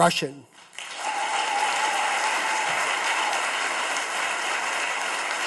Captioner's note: audience claps